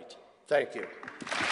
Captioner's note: applause